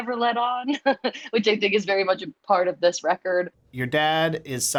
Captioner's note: laughter